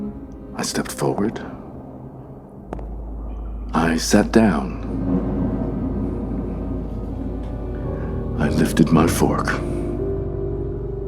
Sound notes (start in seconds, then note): 2.6 footstep